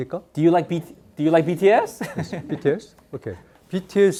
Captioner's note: speaking in Korean; laughs; speaking in Korean